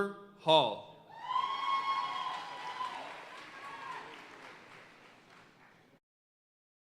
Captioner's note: audience cheering and applauding